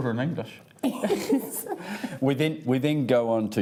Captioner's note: laughs